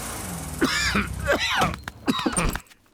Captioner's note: coughs